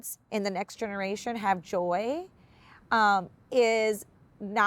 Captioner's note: none